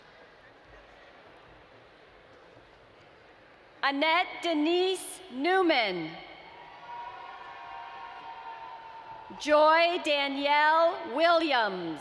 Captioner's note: cheering